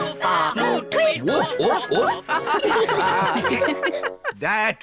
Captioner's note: all giggle